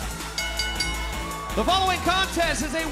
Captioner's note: bell ringing